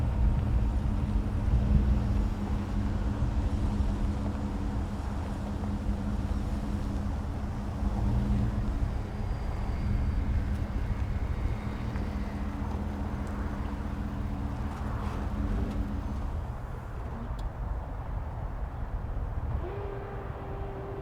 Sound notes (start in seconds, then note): 0.1 wind whistling; 7.7 gravel crunching; 7.8 truck creaking; 17.0 wind whistling continues